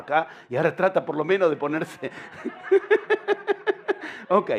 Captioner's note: laughter